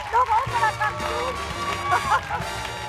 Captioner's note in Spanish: Ríe